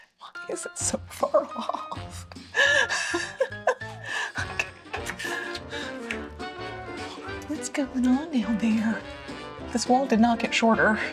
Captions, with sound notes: Why is it so far off? (laughs) What's going on now there? This wall did not get shorter.